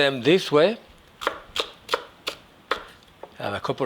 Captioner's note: knife banging